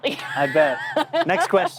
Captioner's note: laughing